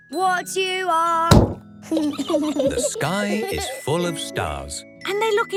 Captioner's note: giggling